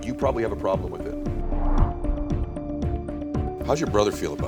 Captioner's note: suspenseful music; graphic whooshing